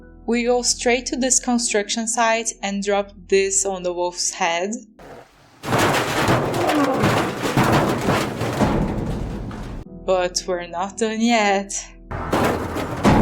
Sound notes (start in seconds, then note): 5.0 metal falling noises